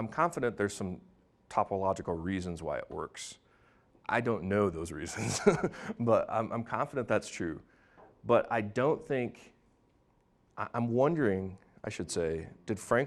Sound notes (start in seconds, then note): 5.1 laughing